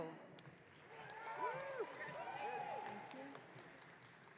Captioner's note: audience cheering